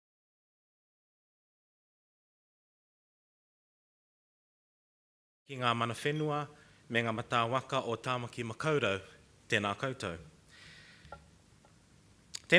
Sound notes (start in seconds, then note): 6.2 speaking foreign language